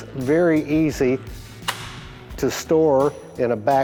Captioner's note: gun clicks